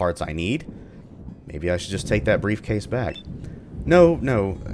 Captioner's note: thunder